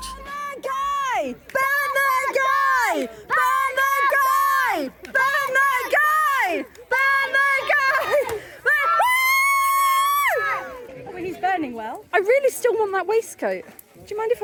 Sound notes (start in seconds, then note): 0.0 crowd chanting: Burn the guy! Burn the guy! Burn the guy! Burn the guy!; 8.6 whooping and hollering